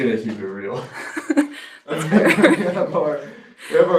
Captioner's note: laughter